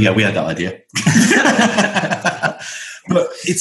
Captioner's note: laughter